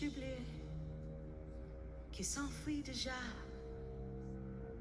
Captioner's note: speaks foreign language